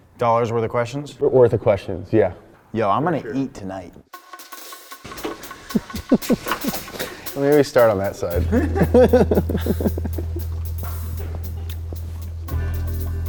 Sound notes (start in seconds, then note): 4.5 upbeat music; 5.6 laughing; 8.8 crew laughing; 9.5 ambient instrumental music